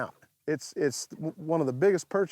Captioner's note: none